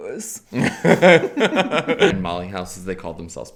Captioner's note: both laugh